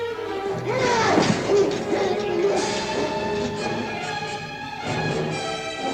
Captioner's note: groaning; scuffling